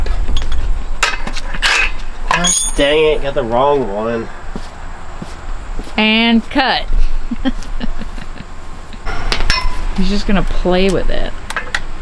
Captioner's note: laughing